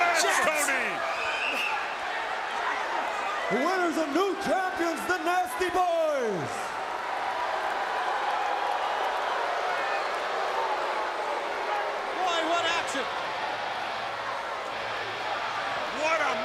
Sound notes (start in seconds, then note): 7.3 crowd cheering